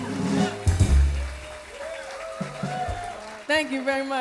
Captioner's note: cheers and applause